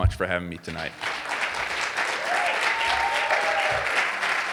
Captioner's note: audience applauding